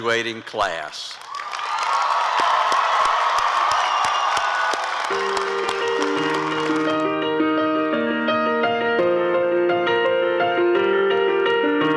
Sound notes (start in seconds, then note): 1.8 applause and cheering; 7.4 piano music